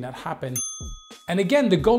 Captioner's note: bell ringing